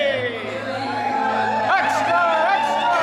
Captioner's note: guests cheering